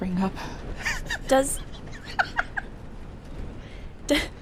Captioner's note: laughter